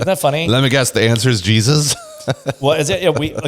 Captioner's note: laughs